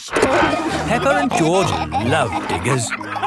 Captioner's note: peppa and george laughing